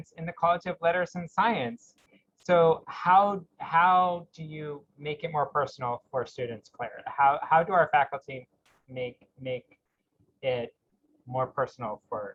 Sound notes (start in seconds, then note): none